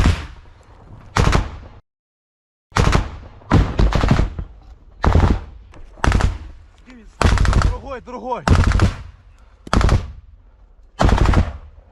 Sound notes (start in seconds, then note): 1.1 Russian BMP firing